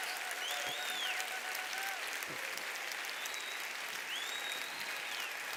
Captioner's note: applause